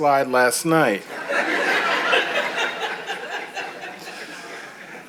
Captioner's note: audience chuckles